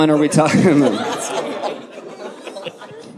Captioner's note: audience laughing